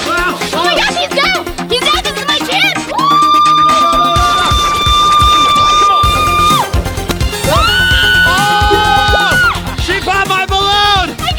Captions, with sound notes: - Oh my gosh he's down, he's down, this is my chance. (screaming) - Oh no, no, no! (screams and cheers) - She popped my balloon.